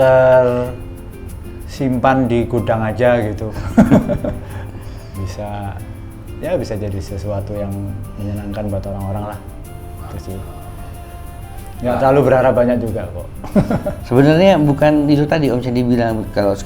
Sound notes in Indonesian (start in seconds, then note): 3.5 tertawa